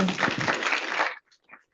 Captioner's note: audience applauds